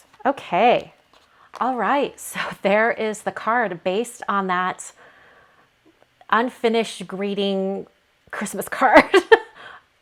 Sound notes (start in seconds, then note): 8.2 laughs